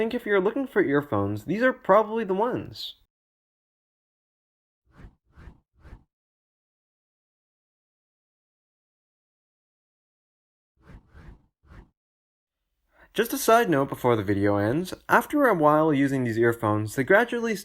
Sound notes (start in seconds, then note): 5.1 transition swooshes